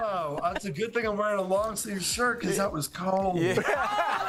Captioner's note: laughter